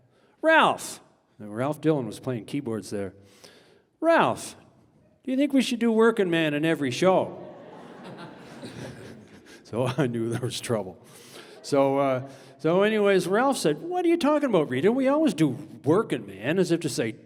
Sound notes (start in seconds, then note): 7.2 audience laughing